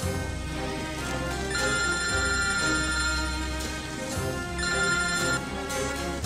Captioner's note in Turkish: Telefon Çalıyor